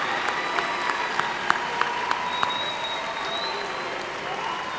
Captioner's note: applause